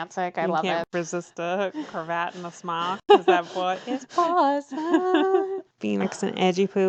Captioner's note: laughs